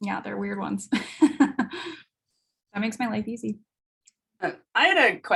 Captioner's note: chuckles